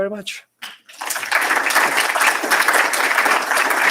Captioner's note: applause